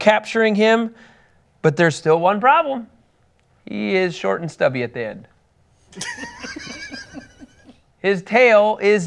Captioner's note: crowd laughs